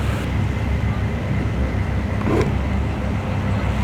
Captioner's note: sounds of zooming the lens in and out quickly for no apparent reason